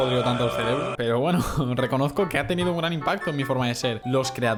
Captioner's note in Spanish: suspira